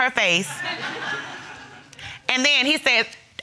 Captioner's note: audience laughs